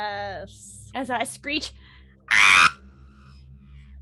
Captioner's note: screeches